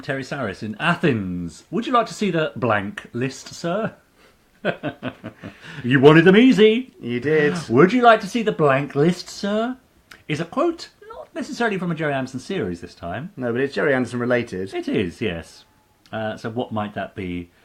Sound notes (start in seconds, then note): 4.6 laughing